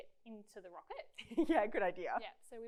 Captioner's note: laughs